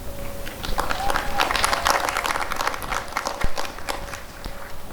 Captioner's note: applause and cheering